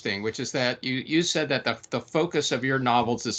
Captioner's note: none